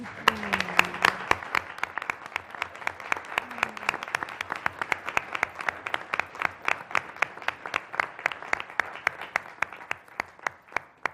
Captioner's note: applause